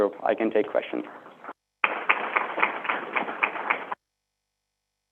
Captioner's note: crowd applauding